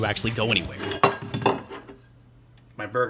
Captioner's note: clunk!